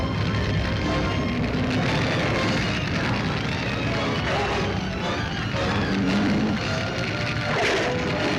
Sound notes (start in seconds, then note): 0.0 flames crackling; 3.8 beast roars